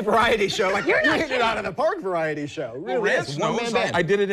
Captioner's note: sound of machine